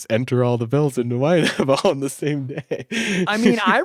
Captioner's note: laughs